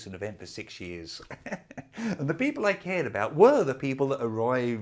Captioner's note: laughing